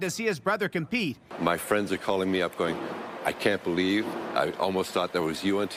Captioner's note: applause